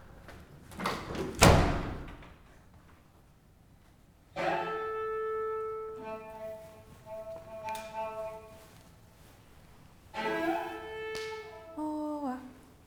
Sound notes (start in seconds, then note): 1.6 door slams, cello and saxophone start; 12.0 begins speaking in Nigerian slang